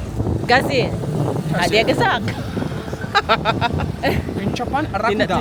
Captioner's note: speaking German; laugh; speaking German